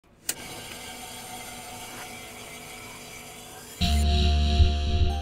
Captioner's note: a click, then static